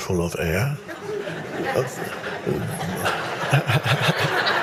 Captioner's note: audience laughing